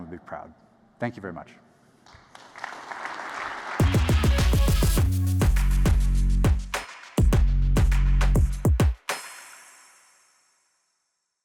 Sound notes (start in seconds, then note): 2.0 applause